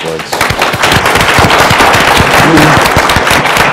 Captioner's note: applause